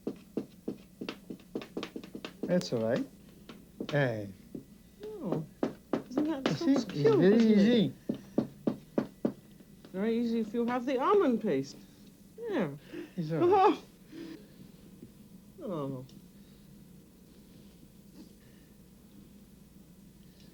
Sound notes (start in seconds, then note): 6.9 speaking french